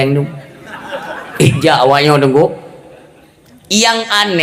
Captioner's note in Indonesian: tertawa